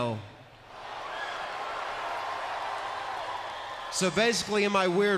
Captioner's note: crowd cheers